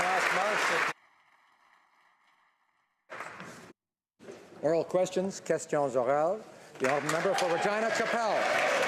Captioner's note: applause